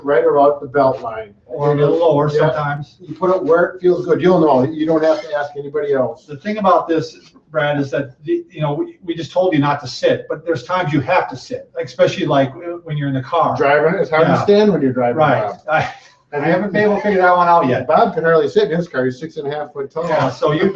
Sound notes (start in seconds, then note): 15.4 chuckles